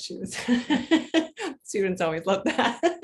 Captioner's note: chuckles